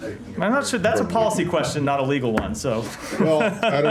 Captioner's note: laughter